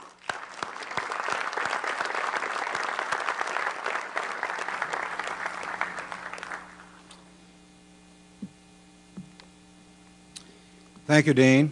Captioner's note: applause